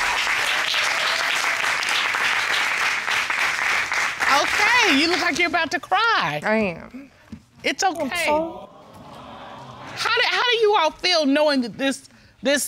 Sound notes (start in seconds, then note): 7.9 voice breaks; 8.8 audience awes